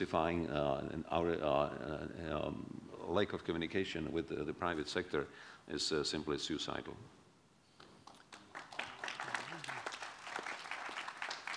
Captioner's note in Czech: Potlesk